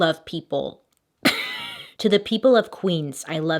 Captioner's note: chuckle